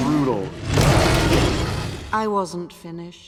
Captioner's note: roars